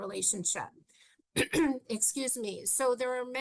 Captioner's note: clears throat